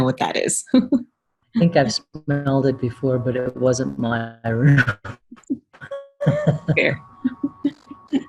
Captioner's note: laughter